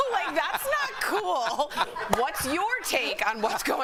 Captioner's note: laughter